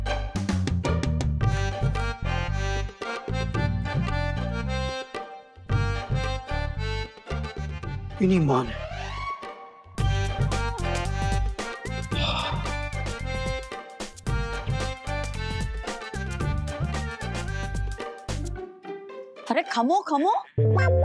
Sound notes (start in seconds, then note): 0.3 suspenseful music; 9.8 pensive music; 12.0 sighing